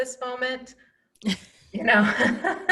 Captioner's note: laughing